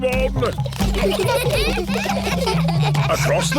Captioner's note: children giggling